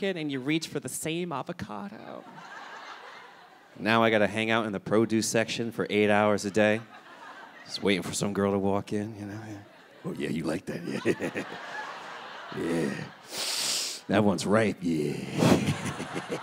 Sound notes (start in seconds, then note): 2.0 audience laughing; 6.4 audience laughing; 9.4 chuckles; 15.2 chuckles